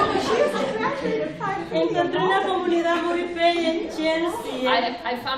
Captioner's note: speaking spanish